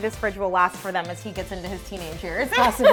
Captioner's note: laughs